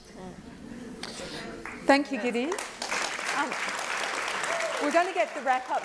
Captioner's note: applause